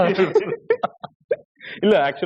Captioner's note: laughter